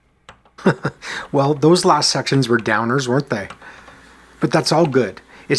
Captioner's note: chuckles